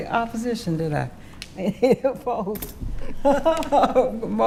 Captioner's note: laughing